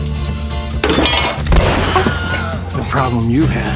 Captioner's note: man screams; gun fires